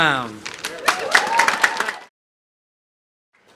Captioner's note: applause